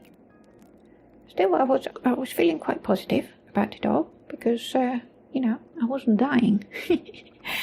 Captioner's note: chuckles